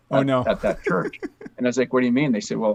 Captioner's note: laughs